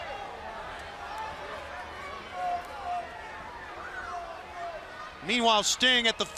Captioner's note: crowd chatter